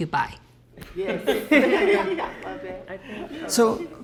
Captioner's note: all laugh